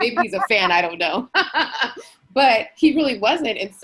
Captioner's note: laughing